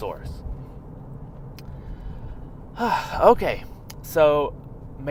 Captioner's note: deep breath